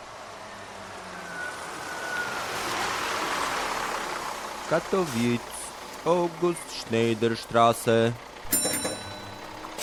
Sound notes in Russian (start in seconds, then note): 1.1 Звук открывающихся дверей автобуса и название остановки; 4.3 по-немецки